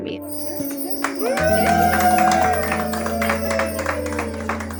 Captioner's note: chimes; cheering, clapping